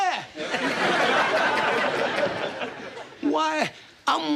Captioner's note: all laughing